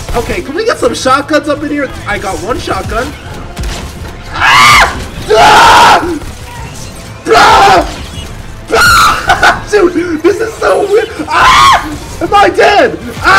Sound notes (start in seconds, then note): 5.2 screams; 8.7 screams; 10.7 screams